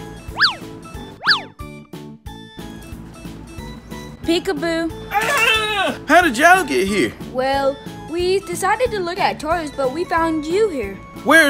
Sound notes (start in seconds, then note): 2.3 upbeat music; 5.4 yelling